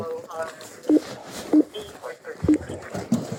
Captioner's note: radio chatter